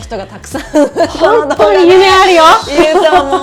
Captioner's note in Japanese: 笑い